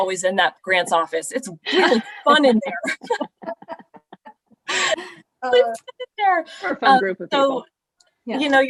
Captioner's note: laughter